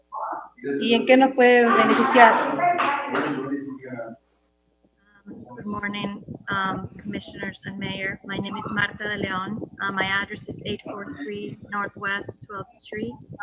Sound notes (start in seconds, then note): 1.1 speaking foreign language